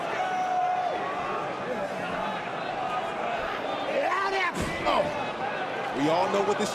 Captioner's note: crowd chatter